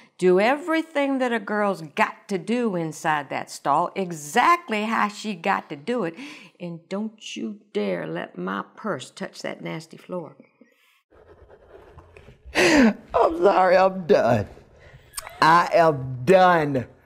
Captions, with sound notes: do everything that a girl's got to do inside that stall exactly how she got to do it. And don't you dare let my purse touch that nasty floor. ( laughter ) I'm sorry. I'm done. I am done.